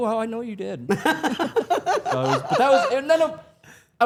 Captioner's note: Stephanie and Elyse laughing